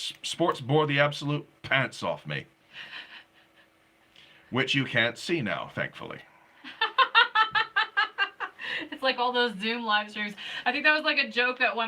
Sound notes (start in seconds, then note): 6.6 laughing